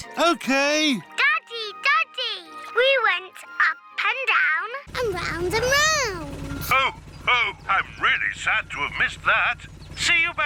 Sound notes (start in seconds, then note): none